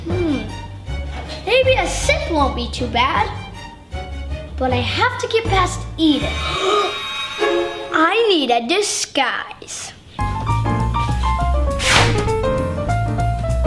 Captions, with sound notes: - Hm. Maybe a sip won't be too bad, but I have to get past Eden. (gasps) I need a disguise. (lively piano music)